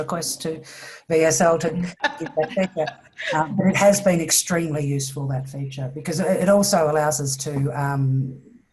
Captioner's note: laughs